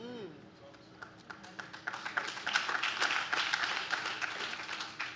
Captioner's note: audience claps